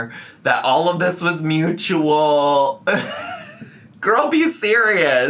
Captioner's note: laughs